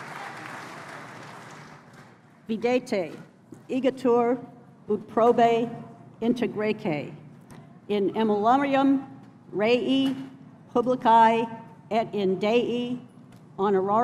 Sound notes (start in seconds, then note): 3.5 speaking latin